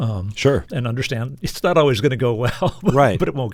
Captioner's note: laughter